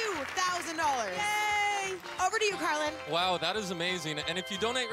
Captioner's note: cheering and Applause